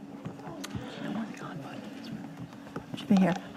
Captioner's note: whispering